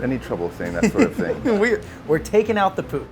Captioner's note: laughing